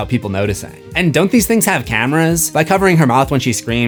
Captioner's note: none